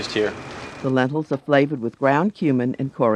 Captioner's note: voiceover